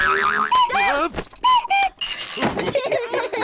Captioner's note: clock cuckoos; all laugh